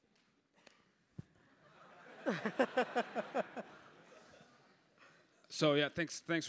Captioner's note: laugh